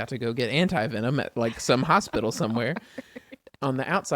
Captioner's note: laughs